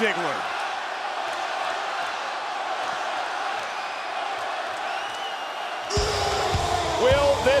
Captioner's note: applause